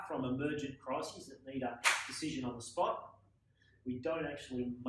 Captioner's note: slap